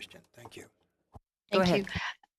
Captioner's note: speaking French